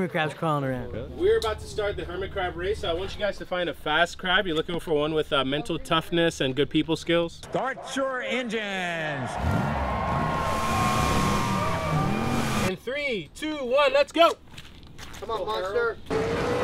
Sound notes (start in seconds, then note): 8.4 crowd roaring; 9.3 engines revving